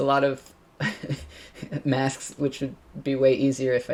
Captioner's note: laughs